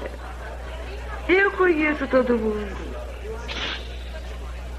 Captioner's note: sneezing